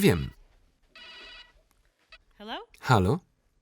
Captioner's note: phone rings